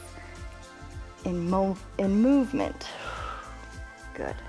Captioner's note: exhales